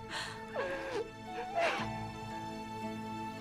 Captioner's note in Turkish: Ağlama sesi